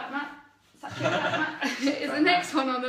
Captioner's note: laughs